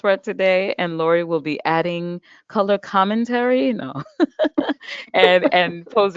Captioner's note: laughs